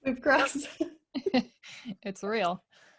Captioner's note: laughing